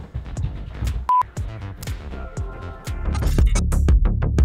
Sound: beeping; intense music

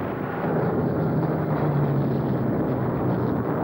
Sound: exploding

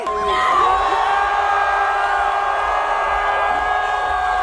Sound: crowd cheering

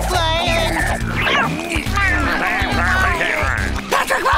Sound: talking gibberish; chattering

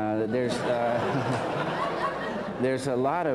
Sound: laughter

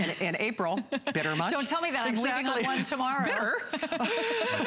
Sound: laughter

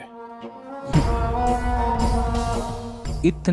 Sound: snickering

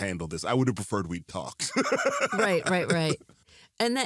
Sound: laughs

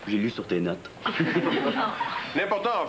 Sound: Rires

